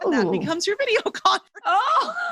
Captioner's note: laughing; laughs